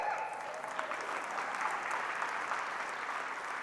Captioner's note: applause